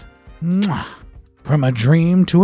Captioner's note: chef’s kiss